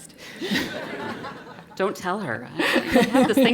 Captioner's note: laugh